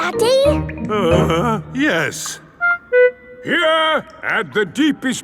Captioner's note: groans